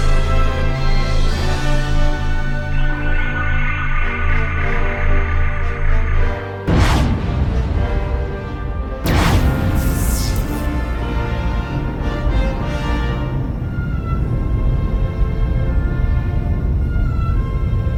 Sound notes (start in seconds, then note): 0.1 dramatic music continues; 6.7 spacecraft roaring; 11.0 dramatic music continues; 14.7 spacecraft humming